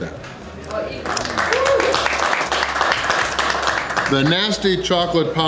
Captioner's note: crowd clapping and cheering